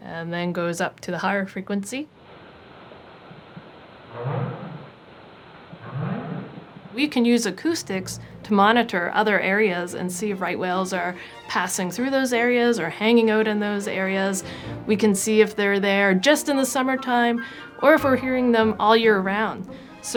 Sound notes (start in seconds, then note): 4.1 whale calling